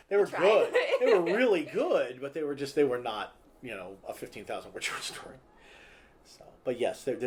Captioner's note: laughter; laughter